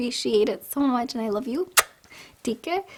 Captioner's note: blows kiss